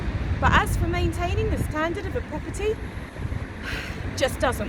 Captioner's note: sigh